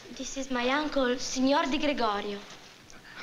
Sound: italian

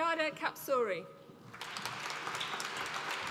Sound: applause

